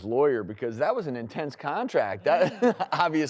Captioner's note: chuckles